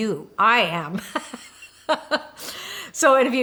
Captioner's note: laughs